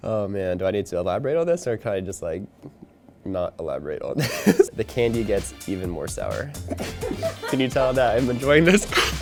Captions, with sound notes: Oh man, do I need to elaborate on this or can I just like not elaborate on this? (laughing) The candy gets even more sour. (offscreen woman laughing) Can you tell that I'm enjoying this?